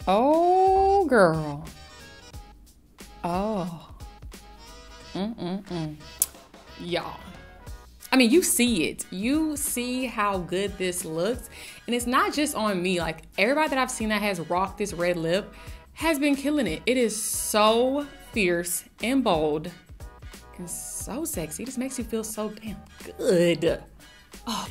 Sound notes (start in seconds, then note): 5.2 tongue clicks